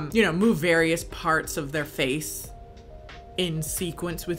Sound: none

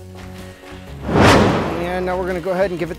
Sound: whooshing

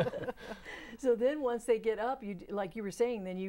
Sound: laughing

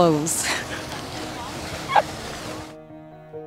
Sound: laughing

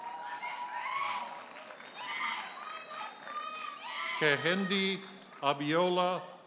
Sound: audience hollers and applauds

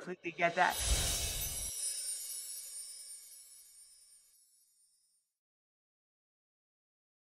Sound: screen whooshing

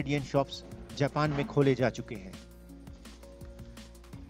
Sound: non-english speech

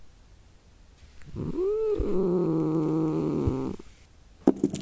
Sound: Broccoli grumbles with frustration

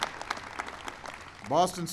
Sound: applause

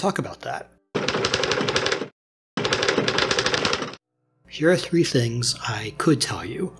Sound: typing

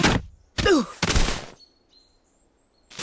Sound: groans

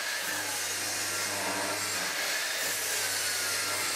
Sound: saw screeches

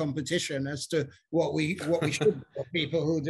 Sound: laughs

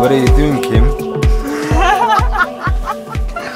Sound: laughs

